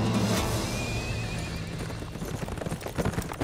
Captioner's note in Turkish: At kişniyor